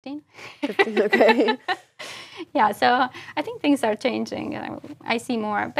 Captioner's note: laugh